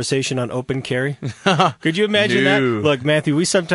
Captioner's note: laughs